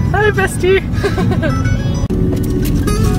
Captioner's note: laughing